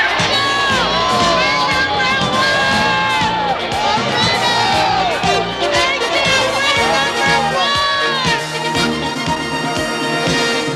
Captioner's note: crowd cheering